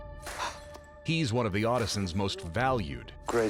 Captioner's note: blows